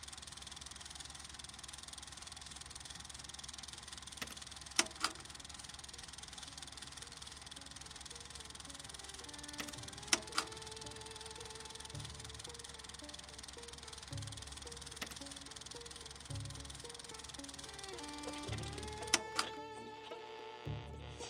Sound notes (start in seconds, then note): 0.2 projector clattering continues; 4.7 projector clattering; 4.8 button clicks; 6.6 gentle pensive music; 6.6 projector clattering; 10.0 button clicks; 10.9 gentle pensive music; 19.0 button clicks; 19.9 radio frequency buzzing